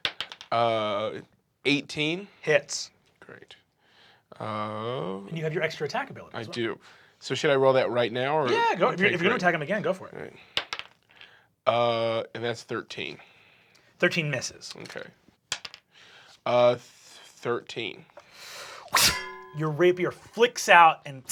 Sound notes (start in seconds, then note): 0.0 rolls dice; 10.6 rolls dice; 15.5 rolls dice